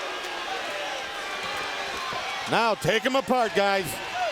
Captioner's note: crowd cheering